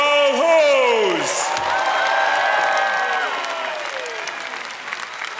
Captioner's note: applause